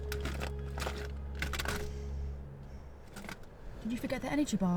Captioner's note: objects rattle